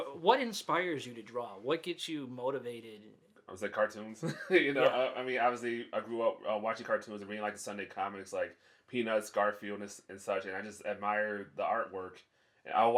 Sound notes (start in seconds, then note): 4.2 laughs